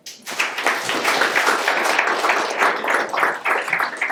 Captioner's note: audience claps